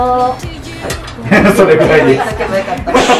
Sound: laughs

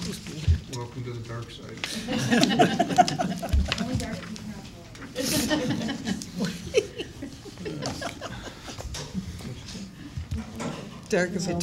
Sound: laughter

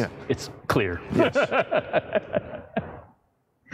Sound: laughs

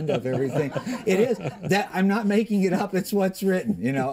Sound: laughter

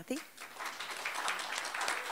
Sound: applause

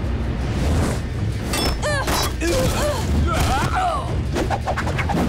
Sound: groaning

